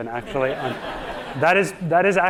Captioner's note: audience laughing